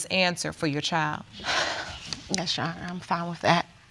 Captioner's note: sighs